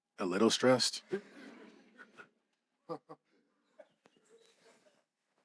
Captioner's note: audience laughing